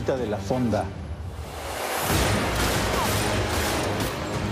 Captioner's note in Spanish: Disparos